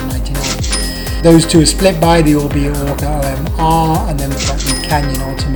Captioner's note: dings